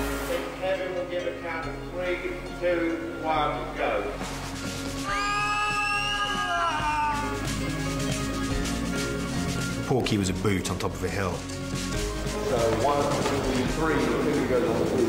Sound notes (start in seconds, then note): 5.0 all screaming